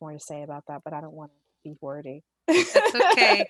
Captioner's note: laughs